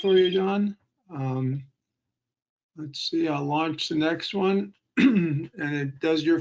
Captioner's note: clearing throat